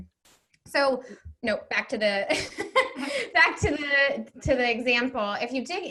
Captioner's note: laughs